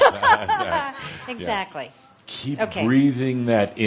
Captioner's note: laughing